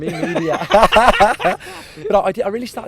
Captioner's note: both laugh